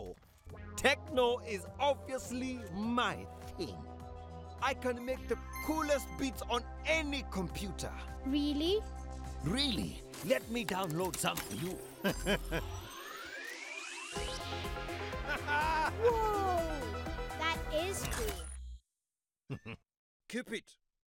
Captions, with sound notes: techno is obviously my thing. I can make the coolest beats on any computer. - Really? - Really. Let me download some for you. (chuckling) (whirring) (techno music) Haha! - Whoa! That is cool. (chuckling) - Keep it.